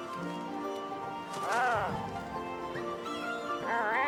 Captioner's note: grunting